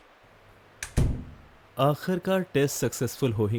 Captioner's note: door close